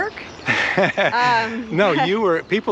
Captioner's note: chuckles